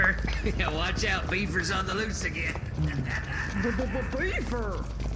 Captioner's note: mocking laugh